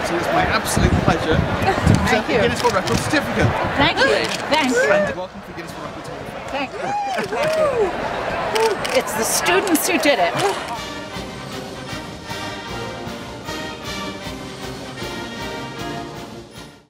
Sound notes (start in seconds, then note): 8.6 cheers; 10.3 band music